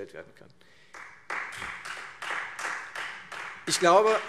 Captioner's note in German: Beifall Freie Demokraten